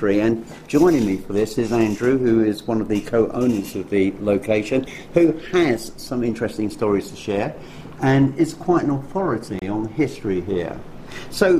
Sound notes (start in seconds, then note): none